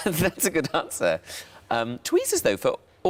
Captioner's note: laughs